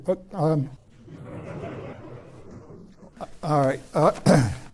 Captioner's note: laughter